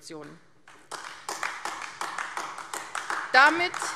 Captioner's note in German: Beifall AfD